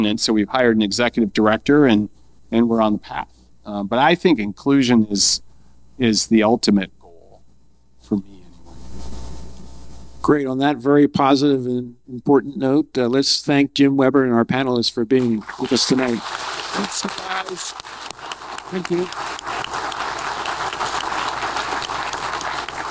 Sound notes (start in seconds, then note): 16.1 audience applause; 19.7 audience applause